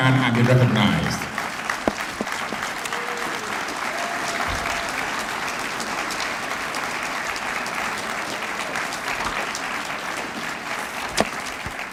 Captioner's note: applause